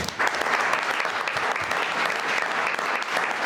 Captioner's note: all clapping